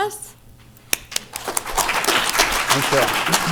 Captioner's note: applause